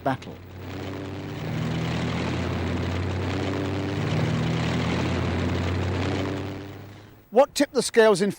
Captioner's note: engines humming